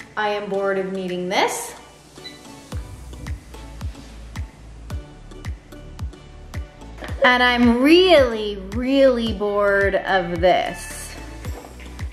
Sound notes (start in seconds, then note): 2.2 beep